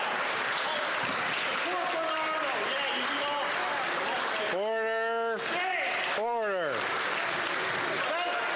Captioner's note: cheering and Applause